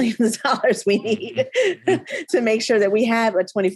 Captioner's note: laughing